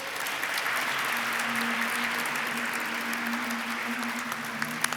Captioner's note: audience applauds